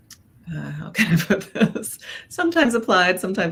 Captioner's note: laughs